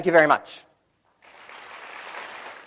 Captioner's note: applause